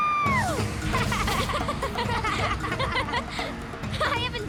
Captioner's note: laughing